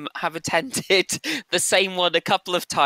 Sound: laughs

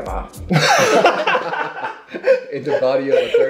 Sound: everybody laughing

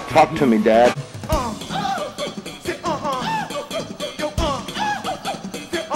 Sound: wild chimpanzee noises or something

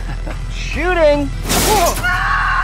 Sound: golf cart crashes

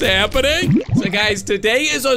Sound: bubbles pop

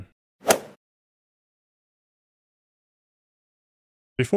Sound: golf ball hit sound

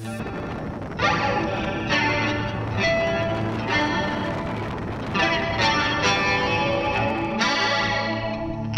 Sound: wind blasting the camera's mic

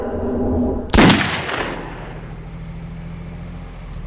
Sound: gunshot

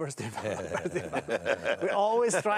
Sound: all laugh

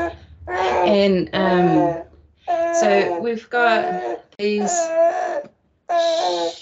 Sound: baby cries

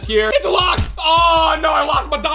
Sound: thump

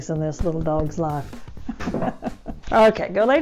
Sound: laughs

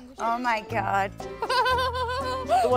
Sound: laughs

